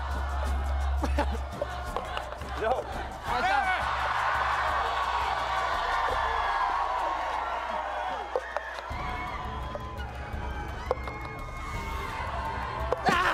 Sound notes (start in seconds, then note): 1.9 applause; 1.9 cheering